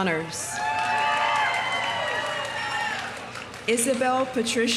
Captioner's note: audience cheering; audience applauding